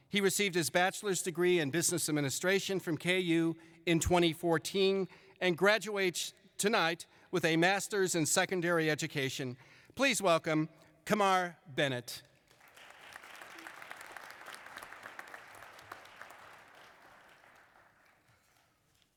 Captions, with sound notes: he received his bachelor's degree in business administration from ku in 2014 and graduates tonight with a master's in secondary education please welcome kamar bennett *applause*